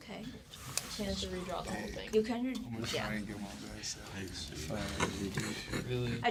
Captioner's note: murmur